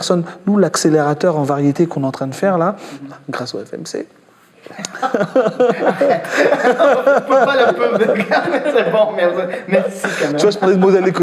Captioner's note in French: rires